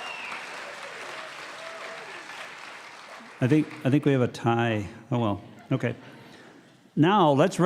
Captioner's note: cheers and applause